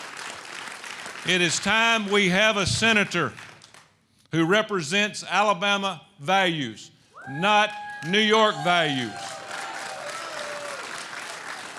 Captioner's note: applause